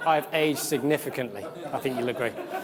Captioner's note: audience laughs